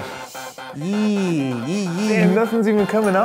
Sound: vocalizes anxiously

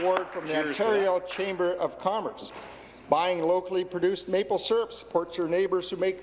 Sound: some Applause

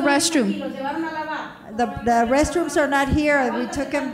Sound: speaking in foreign language

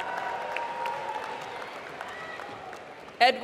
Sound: applause

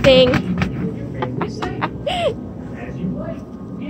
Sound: laughs

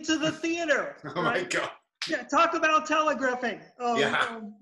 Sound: laughter

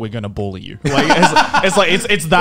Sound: man laughing

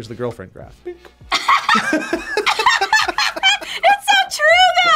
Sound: both laugh

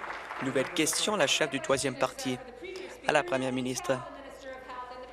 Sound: applause

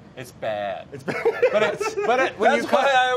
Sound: laughs

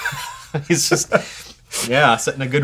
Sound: laughter

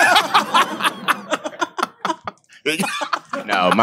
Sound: all laugh

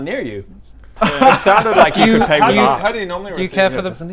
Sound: unsupportive laughter

